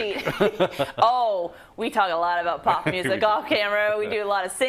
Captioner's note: laugh